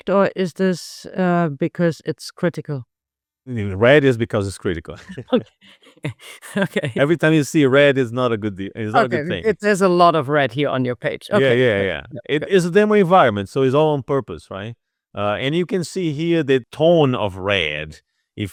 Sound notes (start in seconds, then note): 4.8 both laughing